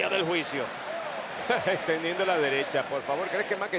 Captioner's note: laugh